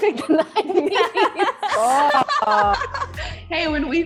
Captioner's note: all laughing